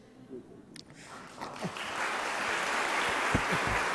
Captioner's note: applause